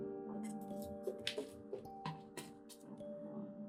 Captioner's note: footsteps thud